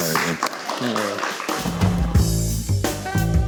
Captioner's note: crew applauding; jazz music